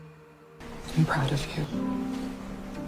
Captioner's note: voiceover